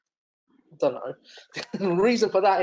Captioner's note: chuckles